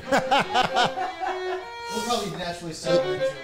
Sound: all laugh

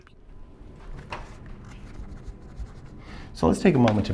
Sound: scribbling noise

